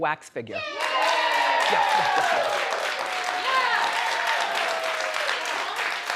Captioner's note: audience cheers; audience applauds